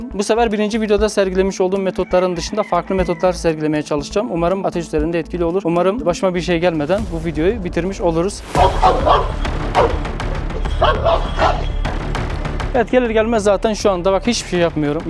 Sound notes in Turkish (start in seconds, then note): 8.3 Havlama sesleri ve gerilim müzik